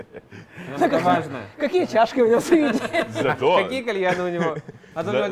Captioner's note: laughter